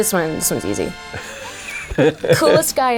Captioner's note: laughing